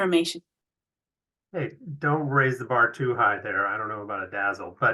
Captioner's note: chuckles